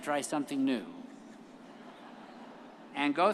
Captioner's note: all laugh